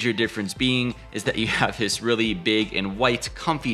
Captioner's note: laughing